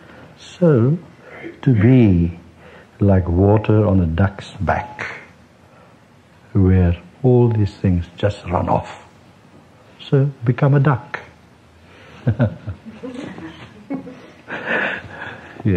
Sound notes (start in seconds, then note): 12.2 laughter